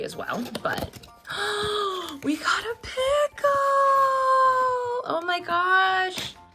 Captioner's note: gasps